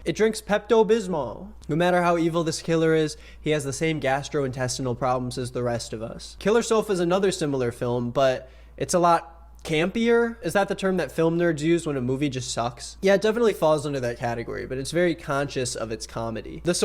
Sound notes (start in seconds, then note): none